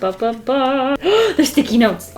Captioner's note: gasps